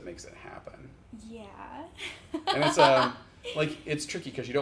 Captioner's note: laughs